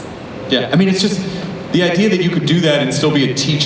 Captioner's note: voiceover